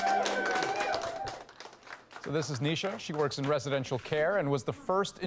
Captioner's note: applause